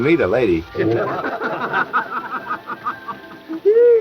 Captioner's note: men laughing